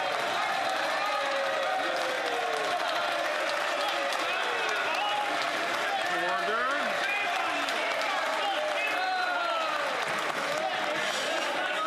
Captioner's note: some Applause